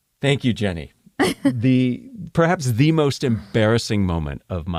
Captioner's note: laugh